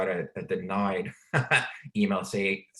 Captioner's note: laughs